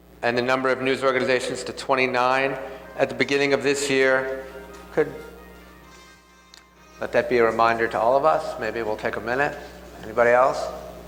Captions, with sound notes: "and the number of news organizations to 29 "at the beginning of this year..." (phone rings) Let that be a reminder to all of us. Maybe it we'll take a minute. Anybody else?